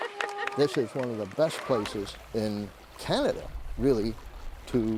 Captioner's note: applause